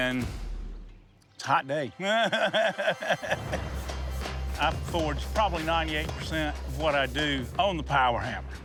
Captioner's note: laughs